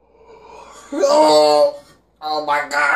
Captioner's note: exhaling; groaning in pain